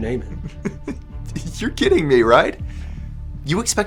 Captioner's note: laughs